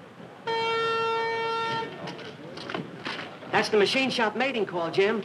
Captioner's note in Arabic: نبرة صوت عالية